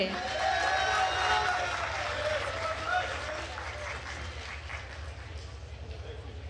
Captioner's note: attendees cheering and applauding